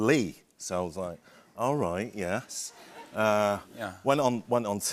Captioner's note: light laughter